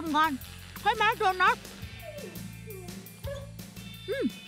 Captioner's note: dog whining